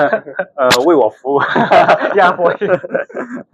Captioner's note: laughs